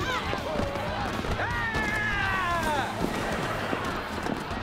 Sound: screaming

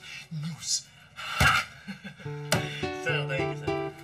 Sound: Dexter laughs

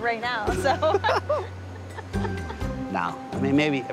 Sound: laughs

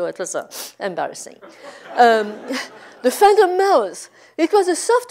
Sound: laugh

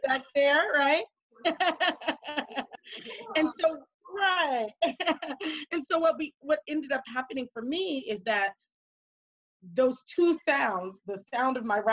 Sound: laughing

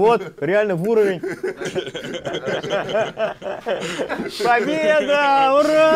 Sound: laughing

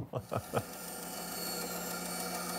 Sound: laughs; band saw cutting wood

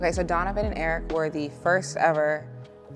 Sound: none

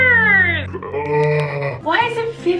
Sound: groans

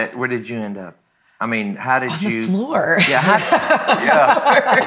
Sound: laughs

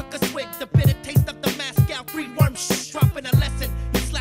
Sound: shushing

